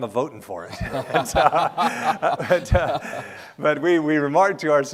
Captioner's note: laughing